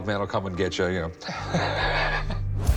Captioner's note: chuckles